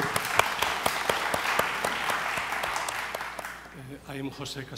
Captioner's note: audience applauds